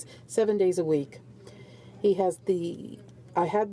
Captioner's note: speaking French